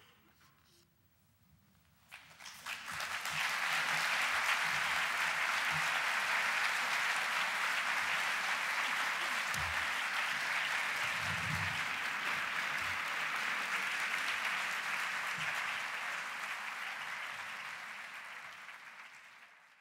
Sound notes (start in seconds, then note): 2.0 audience applause